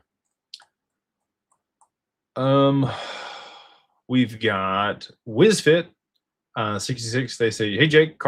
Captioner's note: sighs and gasps